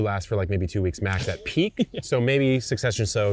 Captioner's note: laughs